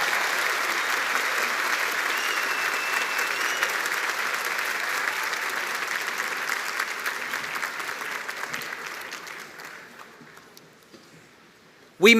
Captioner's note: cheers and applause